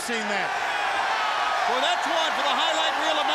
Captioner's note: crowd cheering